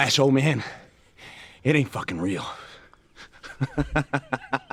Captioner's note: man laughs